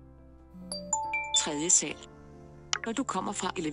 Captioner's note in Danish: Blip lyd